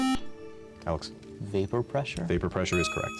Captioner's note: buzzer